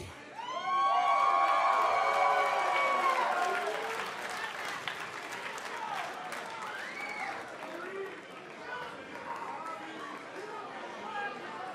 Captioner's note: crowd cheering